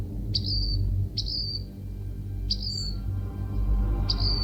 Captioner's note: bird chirping